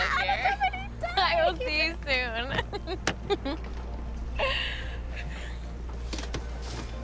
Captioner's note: laughs